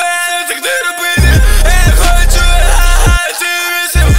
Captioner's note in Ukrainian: ха-ха